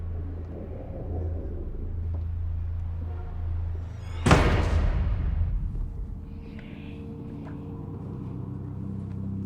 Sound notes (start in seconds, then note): 4.2 door slams; 6.8 eerie music